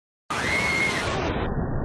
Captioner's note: screams